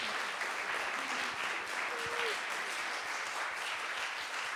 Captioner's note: audience applauding